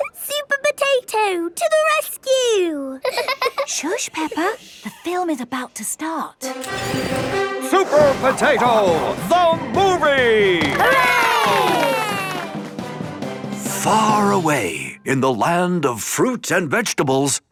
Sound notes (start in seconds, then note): 3.0 both laughing; 6.4 heroic music; 10.5 applause